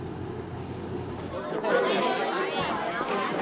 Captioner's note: students talking indistinctly